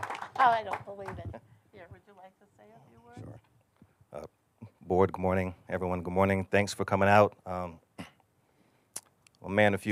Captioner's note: applause